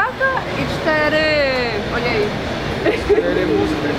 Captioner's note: laugh